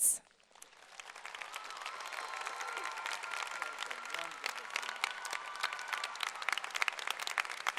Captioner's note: cheering and applause